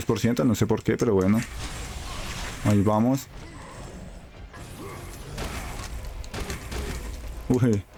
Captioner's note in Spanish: gemido